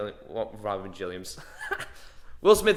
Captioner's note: laughing